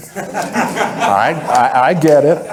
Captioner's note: audience laughing